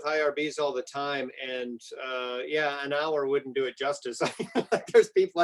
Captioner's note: laughs